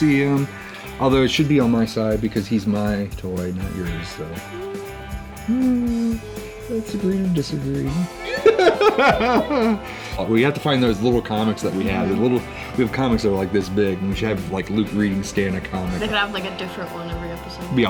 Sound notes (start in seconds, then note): 5.0 both beep; 7.8 laughs